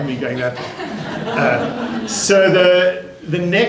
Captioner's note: laughter